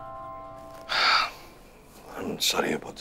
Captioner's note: Sighs